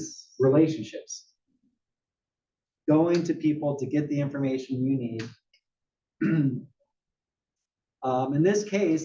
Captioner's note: cough